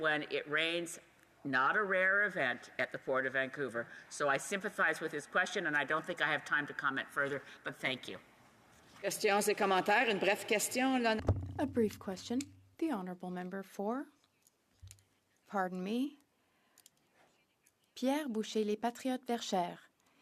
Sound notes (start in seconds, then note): 12.8 speaking French